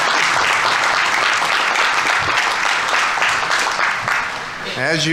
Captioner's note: audience applauding